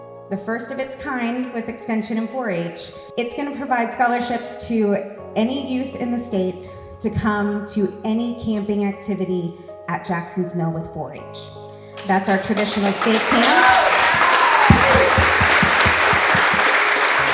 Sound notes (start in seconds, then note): 13.7 audience applauds